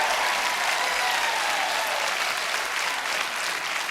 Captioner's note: applause